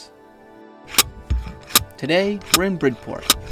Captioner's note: spade whirring